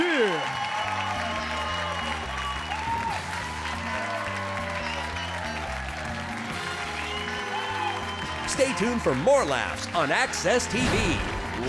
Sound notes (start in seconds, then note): 0.9 audience cheers and applauds; 2.7 upbeat music